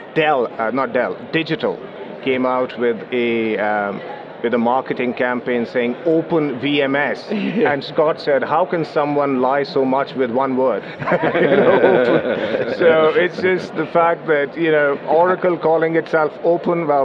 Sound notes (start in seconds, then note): 10.8 laughs